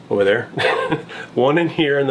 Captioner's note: laughing